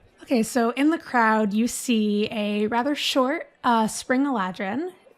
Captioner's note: none